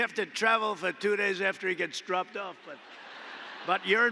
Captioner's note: laughter